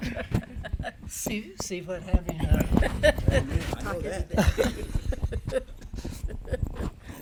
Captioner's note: laughing